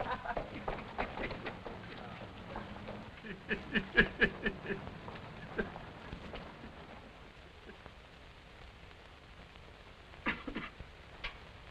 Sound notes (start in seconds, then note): 2.7 laughs